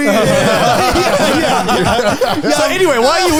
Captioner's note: all laughing